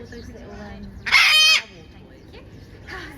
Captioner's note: macaw squawks loudly!